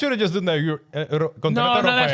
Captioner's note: speaking In Foreign Language